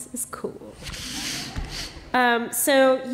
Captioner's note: laughter